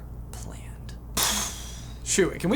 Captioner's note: poooooooooooooooooooof